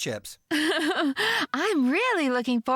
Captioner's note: chuckling